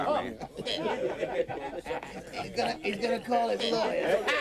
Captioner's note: men laugh